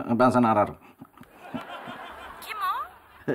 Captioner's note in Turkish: Gülme efekti